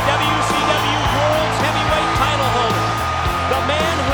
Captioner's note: crowd cheering